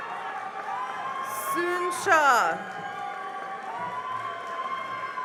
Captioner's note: cheering and applause